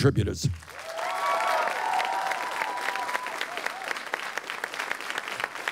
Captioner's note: crowd cheers and applauds